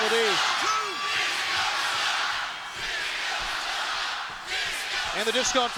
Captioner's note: crowd chants "Disco sucks"